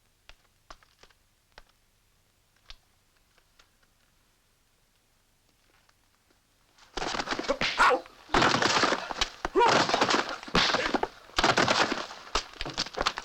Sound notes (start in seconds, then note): 7.5 grunting